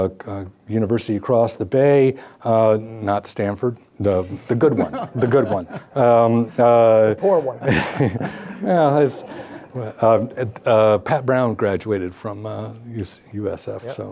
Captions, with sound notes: university across the bay, not Stanford, the good one. The good one. (laughing) - The poor one. - Pat Brown graduated from USF.